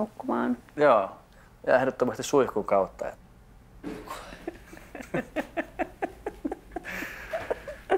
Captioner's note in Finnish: Nauravat